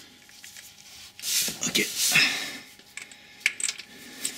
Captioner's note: hhh